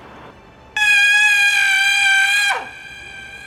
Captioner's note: screams